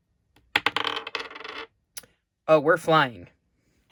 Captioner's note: sound of dye landing on the desk